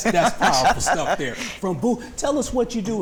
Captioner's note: laughter